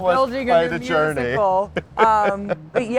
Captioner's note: laughing